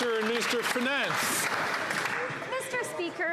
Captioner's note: some Applause